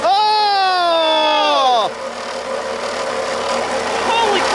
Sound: group yells

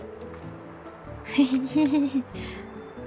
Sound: giggling

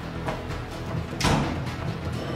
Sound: door slamming

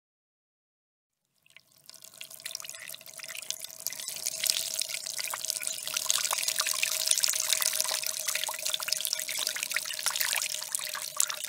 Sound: sound of water pour from light stream

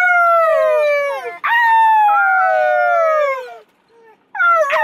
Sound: howling

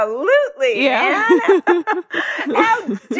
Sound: both laugh

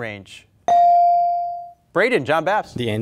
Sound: beep

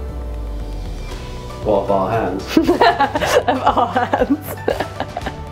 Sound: laughter

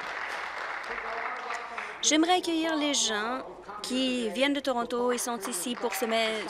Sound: applause

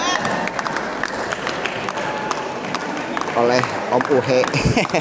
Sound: applause

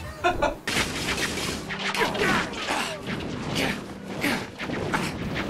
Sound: shots whooshing

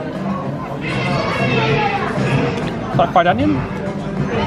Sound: elephant trumpets

